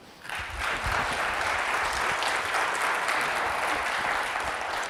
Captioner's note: audience applauds